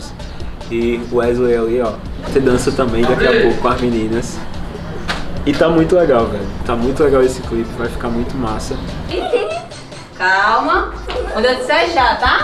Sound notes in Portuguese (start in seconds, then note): 9.1 Risadas